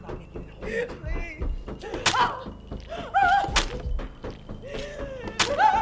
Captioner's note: stabbing repeatedly